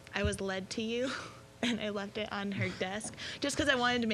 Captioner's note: laughing